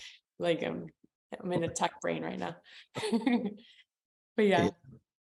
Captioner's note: laughs